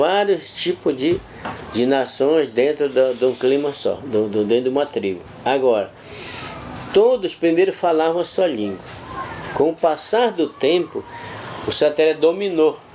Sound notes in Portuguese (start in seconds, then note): 8.4 vozes de crianças